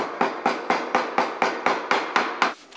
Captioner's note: hammering